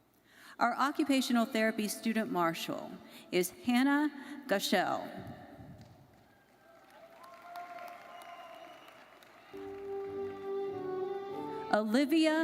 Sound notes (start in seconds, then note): 6.2 audience cheering and applauding